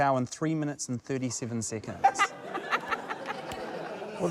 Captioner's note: laughter